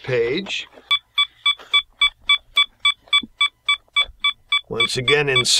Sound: beeping

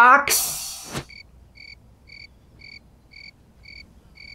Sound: crickets

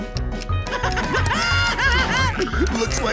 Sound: laughing

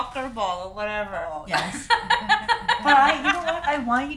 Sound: loud laughter

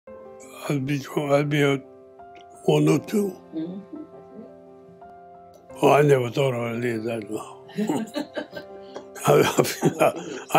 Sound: laughter

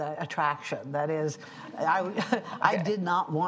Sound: audience laughing

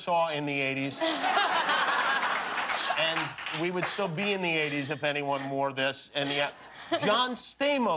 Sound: laughter

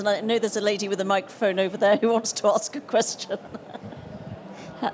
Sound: laughs

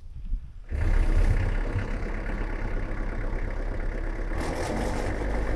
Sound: machine rumbling

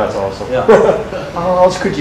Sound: audience laughter

